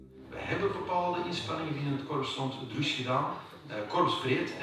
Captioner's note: Dutch spoken audio